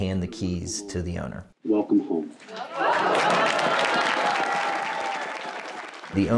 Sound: audience applauding

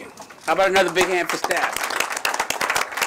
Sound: applause

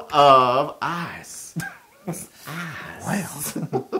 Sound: laugh

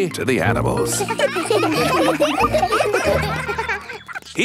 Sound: children laughing

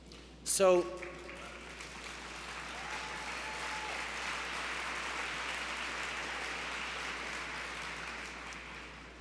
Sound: cheers & applause

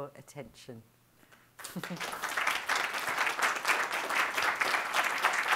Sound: applause

